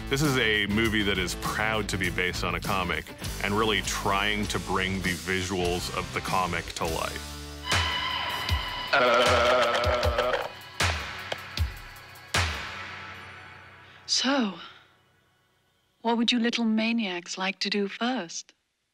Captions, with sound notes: This is a movie that is proud to be based on a comic and really trying to bring the visuals of the comic to life. (suspenseful music) (boy flaps lips) (boy knocks head) - So, what would you little maniacs like to do first?